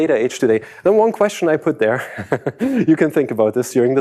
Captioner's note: laughs